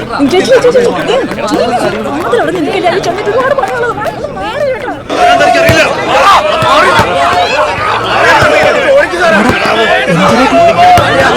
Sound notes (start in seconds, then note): 5.8 protest Commotion